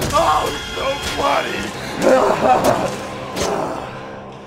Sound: laughs

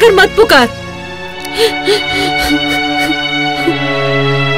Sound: sobbing

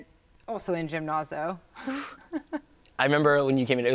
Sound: chuckles

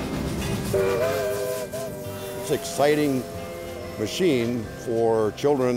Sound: train whistle

